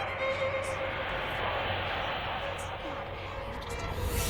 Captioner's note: music drowns out voice; voice distorted